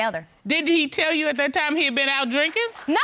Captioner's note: audience applauds